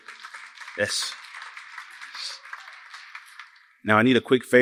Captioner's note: applause